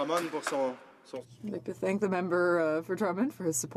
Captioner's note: some Applause